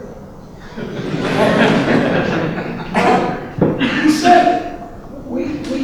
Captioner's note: audience laughing